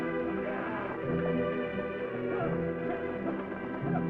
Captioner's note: coachman yelling